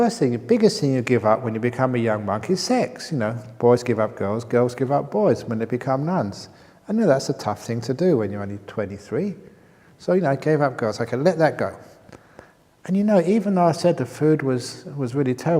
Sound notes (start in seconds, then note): none